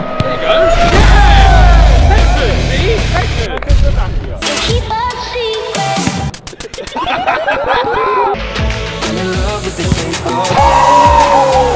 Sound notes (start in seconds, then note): 4.4 upbeat music; 6.4 all laughing